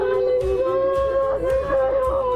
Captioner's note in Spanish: gritos